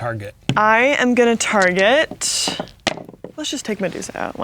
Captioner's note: dice rolling